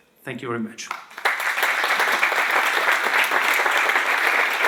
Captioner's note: applause